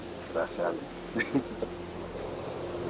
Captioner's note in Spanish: ríe